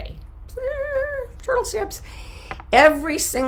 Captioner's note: hums